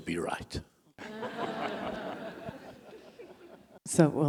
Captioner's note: audience laughing